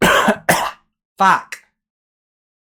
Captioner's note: deathly Posh Cough; scottish Accent